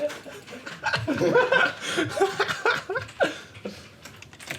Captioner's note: teammates chuckling